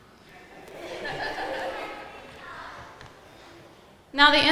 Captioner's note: audience laughing